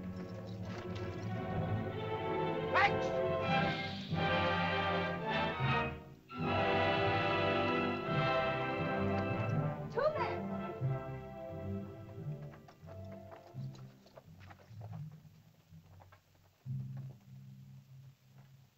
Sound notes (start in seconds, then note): 0.2 suspenseful music; 2.5 Tumak shouts in caveman language; 4.0 dramatic music; 12.3 soft music